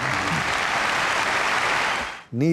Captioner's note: loud applause